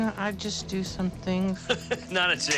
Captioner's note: chuckle